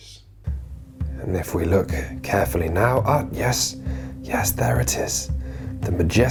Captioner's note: quinns' attenborough voice